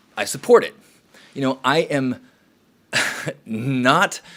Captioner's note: laughs